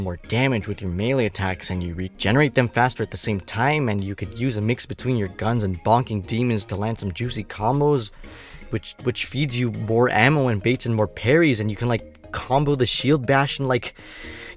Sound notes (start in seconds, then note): 8.1 inhales